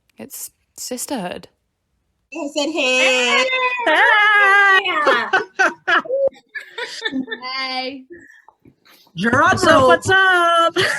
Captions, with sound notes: It's sisterhood. I said hey! (laughing, shouting, greeting) Hey! -Drumroll -What's up! What's up!